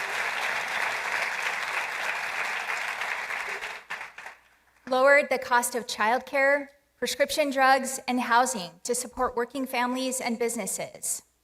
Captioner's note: applause